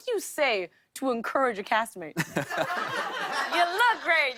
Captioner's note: laughter